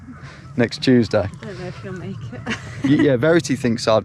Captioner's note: laughing